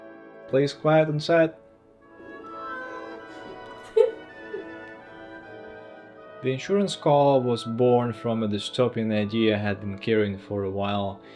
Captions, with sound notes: please quiet on set. (meow) The insurance call was born from a dystopian idea I had been carrying for a while